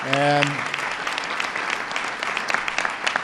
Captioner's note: applause